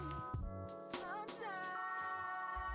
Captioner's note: phone rings